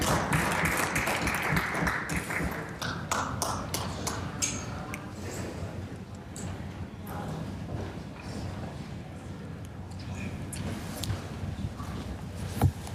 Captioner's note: applause